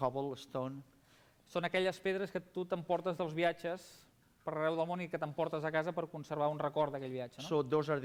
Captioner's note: non-english speech